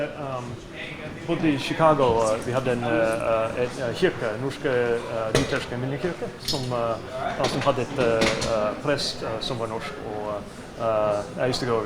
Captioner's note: speaking foreign language